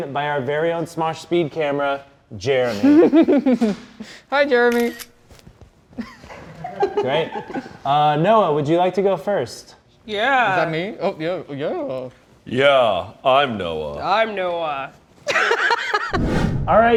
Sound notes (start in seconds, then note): 4.6 camera snaps; 5.9 laughter; 15.3 laughs